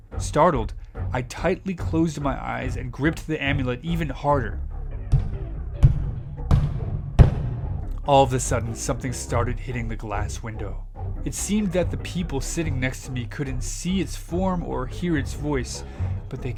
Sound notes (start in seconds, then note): 5.7 tapping